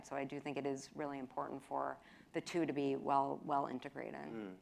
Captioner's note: none